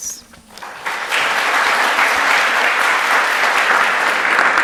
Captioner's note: audience claps